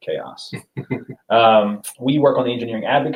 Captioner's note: laughs